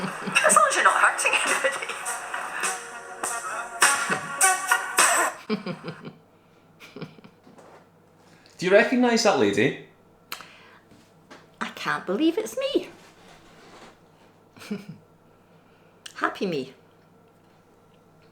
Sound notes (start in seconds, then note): 3.0 music plays from laptop; 5.0 Janice laughs